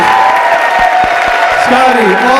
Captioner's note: applause continues